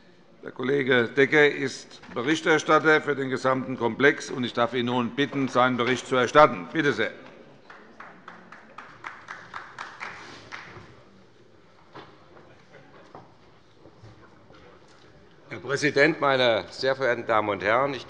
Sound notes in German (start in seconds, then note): 7.6 Beifall bei Abgeordneten der SPD